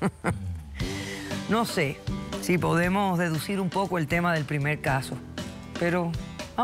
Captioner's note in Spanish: risas